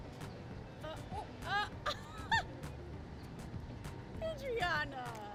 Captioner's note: staff laughs